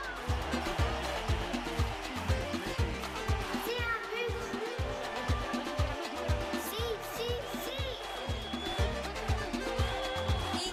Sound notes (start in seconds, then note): 0.1 background music; 3.7 speaking in Foreign Language; 4.8 background music; 7.4 speaking in Spanish